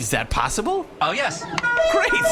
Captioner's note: D-34_LR honks a horn